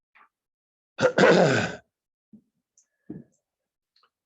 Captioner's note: clears throat